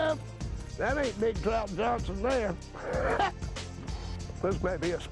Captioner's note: laughs